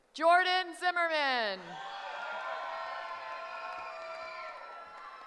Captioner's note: cheering